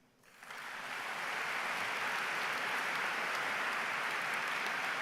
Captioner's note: audience applause